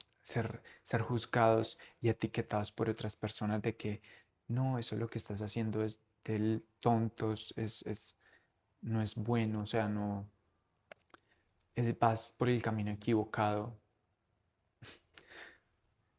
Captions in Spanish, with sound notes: Ser ser juzgados y etiquetados por otras personas de que no eso es lo que estás haciendo es de tontos es es no es bueno o sea no el vas por el camino equivocado [resoplido]